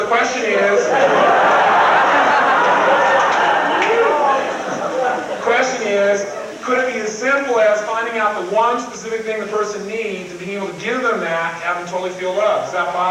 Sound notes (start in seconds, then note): 0.0 crowd laughs